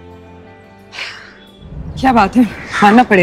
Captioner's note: Ananya sighs